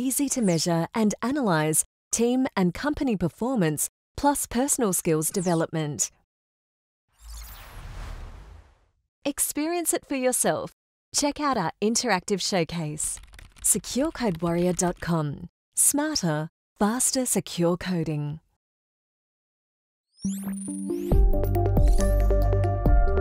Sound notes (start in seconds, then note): 7.1 screen whooshing; 21.0 lively music